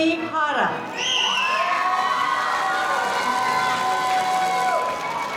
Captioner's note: crowd cheering